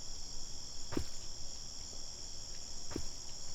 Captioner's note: thud of footsteps